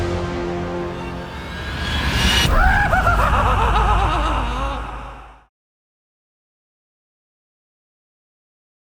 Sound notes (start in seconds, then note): 0.0 music fades; 0.9 pennywise laughs maniacally